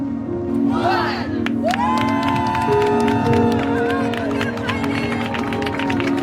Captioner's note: people cheer and clap